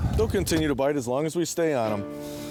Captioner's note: voiceover